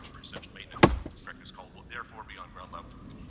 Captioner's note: knife clanks